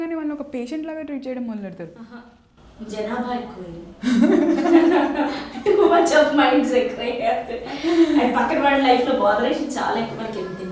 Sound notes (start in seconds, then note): 4.0 laughs and smiles